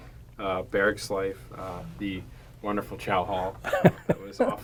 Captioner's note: laughter